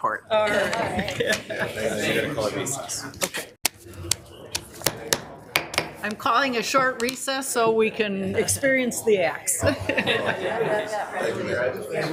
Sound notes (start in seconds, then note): 5.5 gavel taps; 9.6 laughs